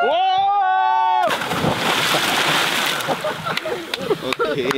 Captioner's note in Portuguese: som do mergulho